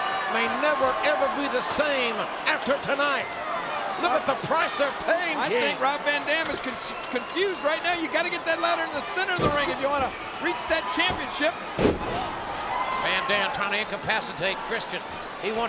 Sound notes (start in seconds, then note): 11.7 mat thumping